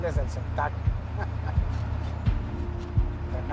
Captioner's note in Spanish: Risas